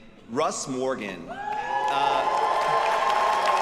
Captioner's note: students cheering; audience applauding